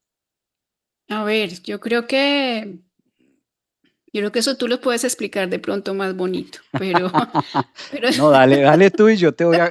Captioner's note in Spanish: risas